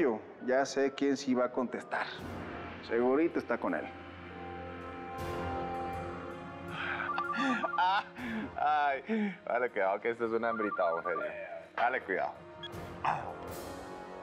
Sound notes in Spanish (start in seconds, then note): 4.2 Suena el celular; 6.8 Risas